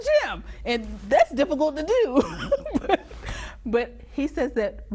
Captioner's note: laughs